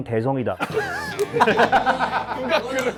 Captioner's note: shock